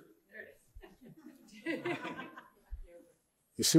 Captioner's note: laughing